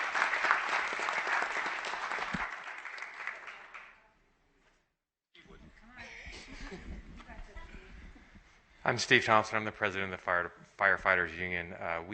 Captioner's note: applause